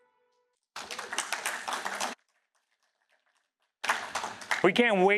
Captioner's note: applause